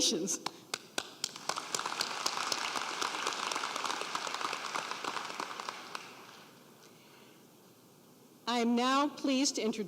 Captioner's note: applause